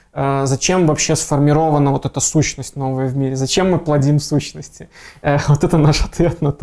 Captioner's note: laughing